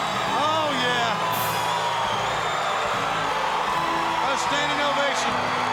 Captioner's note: audience cheering